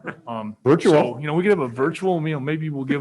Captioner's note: laughs